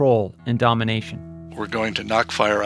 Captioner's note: soundbite of archived recording